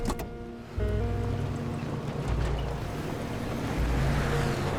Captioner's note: car engine whooshing